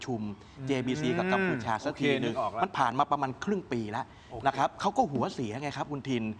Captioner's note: clears throat